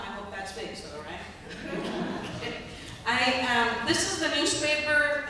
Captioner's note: laughter